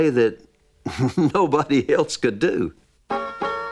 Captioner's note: laughing